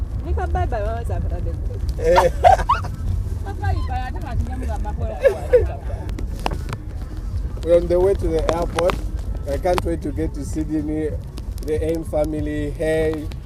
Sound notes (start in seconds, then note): 2.0 woman laughing; 4.8 woman speaking foreign language